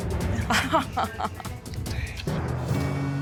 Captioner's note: chuckling